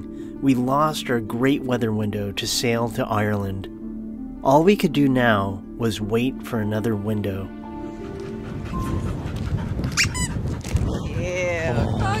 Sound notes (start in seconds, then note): 9.9 chew toy squeak